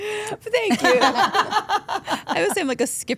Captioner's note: Steph and Elyse laugh